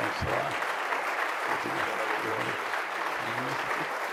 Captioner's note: applause